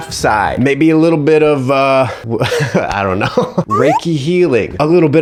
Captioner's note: laughs